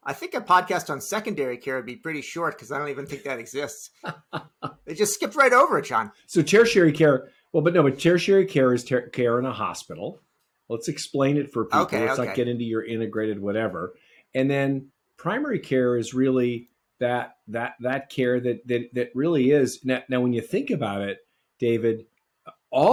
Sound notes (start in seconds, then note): 3.0 laughing